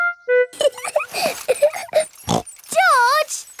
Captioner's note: laughs and snorts